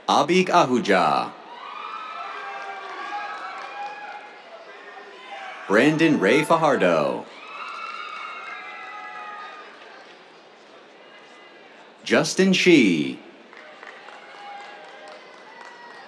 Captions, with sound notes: Abhik Ahuja. [CHEERS, APPLAUSE] Brandon Ray Fajardo. [CHEERS, APPLAUSE] Justin Shih. [APPLAUSE]